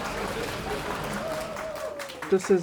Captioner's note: applause